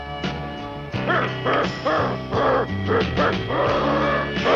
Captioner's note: grunting